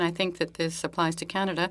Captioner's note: speaking French